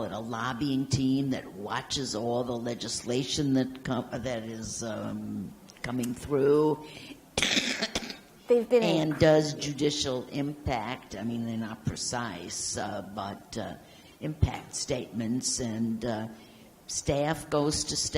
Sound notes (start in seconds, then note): 7.3 coughs